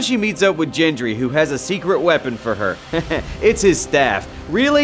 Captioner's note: chuckles